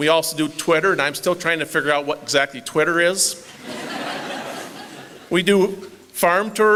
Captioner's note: laughter